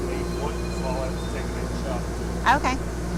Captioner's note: talking